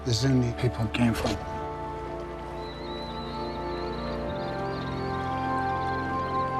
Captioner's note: birds squawking